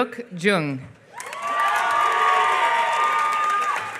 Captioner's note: applause